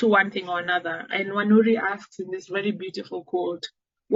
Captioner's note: none